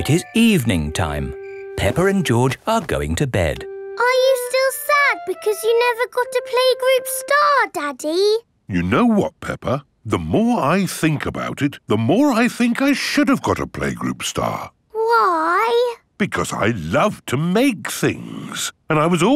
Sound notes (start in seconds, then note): none